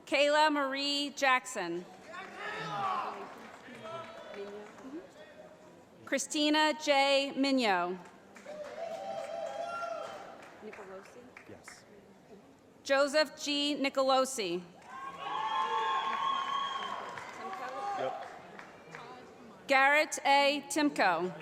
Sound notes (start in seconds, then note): 2.5 voiceover; 8.4 cheering; 14.8 cheering